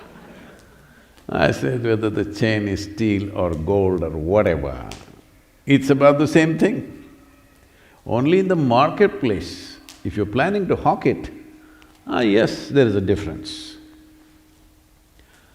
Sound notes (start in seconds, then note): 0.0 laughter; 3.5 laughs